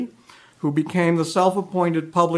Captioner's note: none